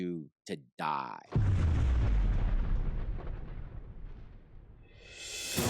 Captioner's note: explosion